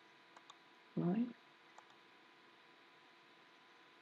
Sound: clicking sounds

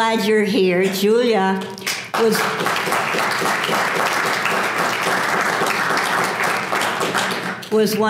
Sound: applause

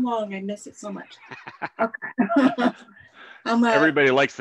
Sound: laughs; chuckles

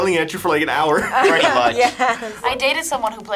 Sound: laughs

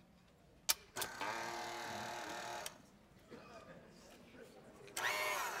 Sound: whirring

